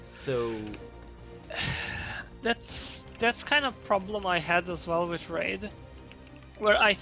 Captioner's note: sighs